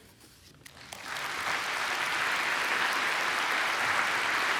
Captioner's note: applause